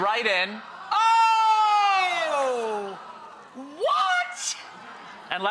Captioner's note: audience exclaiming